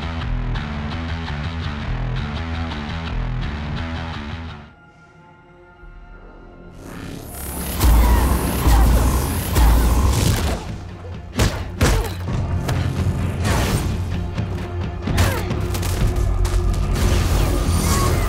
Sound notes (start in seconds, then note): 0.1 upbeat music; 7.7 dramatic music; 8.0 Annie grunting; 11.4 fists whacking; 15.3 dramatic music